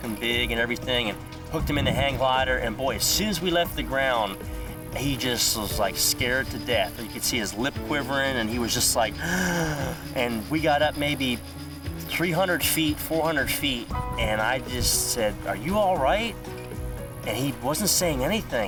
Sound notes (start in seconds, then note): 9.1 gasps